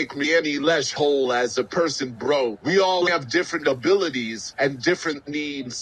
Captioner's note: none